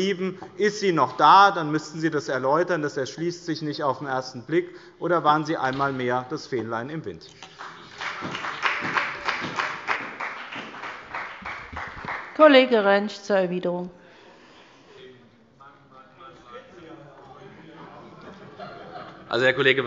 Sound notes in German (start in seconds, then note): 7.4 Beifall bei dem BÜNDNIS 90/DIE GRÜNEN und bei Abgeordneten der CDU; 14.0 Zurufe von der FDP und dem BÜNDNIS 90/DIE GRÜNEN –Heiterkeit bei der CDU